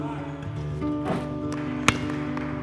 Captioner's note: hands slap basketball; net whooshes; onlooker claps